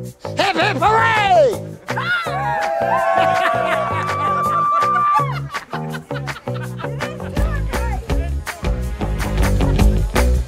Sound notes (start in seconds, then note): 1.9 everyone cheering; 3.0 laughing; 6.2 upbeat music